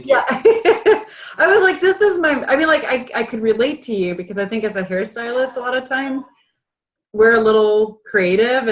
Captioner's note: laughs